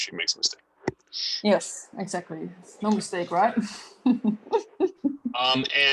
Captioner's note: chuckles